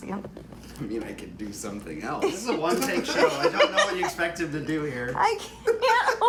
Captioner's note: laughs